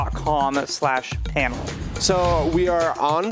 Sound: whooshing

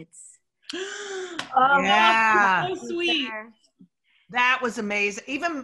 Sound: gasp

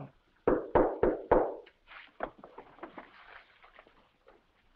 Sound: knocking at door

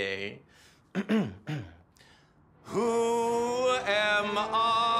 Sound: clears throat

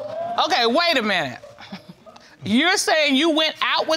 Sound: chuckles

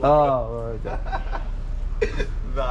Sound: laughing

